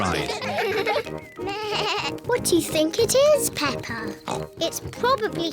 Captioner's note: bleats; oinks